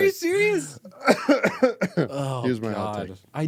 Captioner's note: coughing